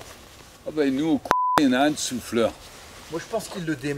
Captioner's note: beep